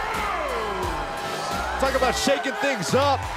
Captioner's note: crowd cheering